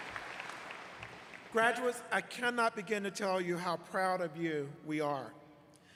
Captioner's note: applause